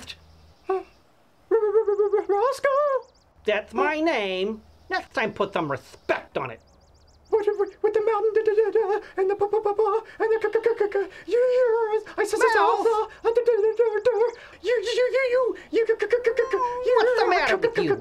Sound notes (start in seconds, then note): 0.4 stuttering; 7.0 stuttering gibberish; 13.1 stuttering gibberish